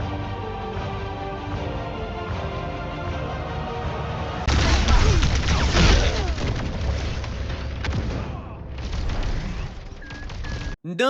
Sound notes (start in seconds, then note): 4.4 BRUTAL sounds of Illari getting annihilated